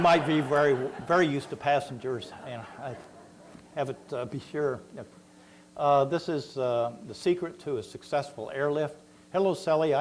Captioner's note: laughter